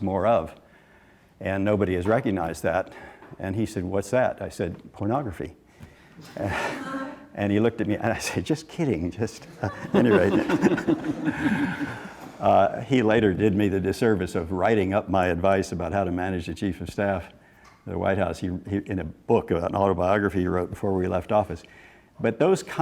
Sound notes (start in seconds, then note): 9.4 laughing